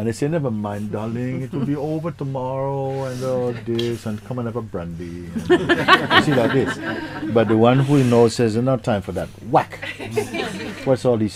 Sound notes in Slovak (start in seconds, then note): 5.3 Smiech spytujúcej sa